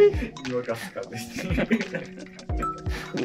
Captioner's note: laughing